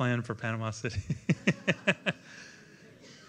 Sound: laughter

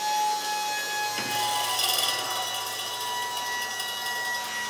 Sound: machine buzzing

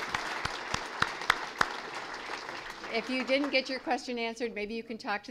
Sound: applause

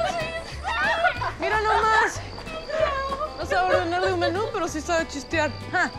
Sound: Lupe and Esti speak in Spanish

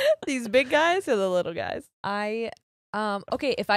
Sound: both laugh

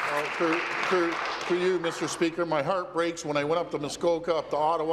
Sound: applause

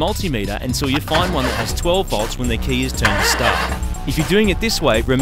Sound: engine cranking

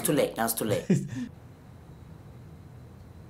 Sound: laughs

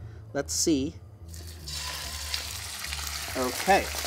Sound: chicken sizzles

